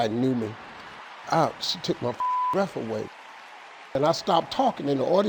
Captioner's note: beep